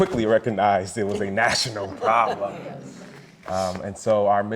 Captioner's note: all laughing